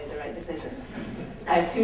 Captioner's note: laughter